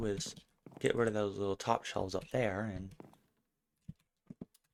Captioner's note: stairs